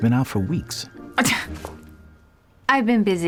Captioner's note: scoffs